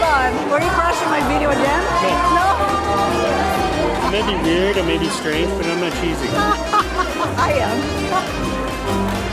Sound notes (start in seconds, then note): 6.2 laughs